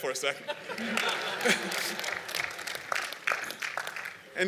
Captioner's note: laughter and Applause